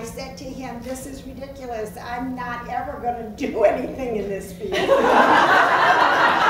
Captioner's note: laughs